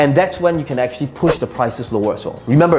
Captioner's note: air whooshing